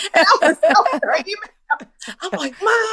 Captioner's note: laughter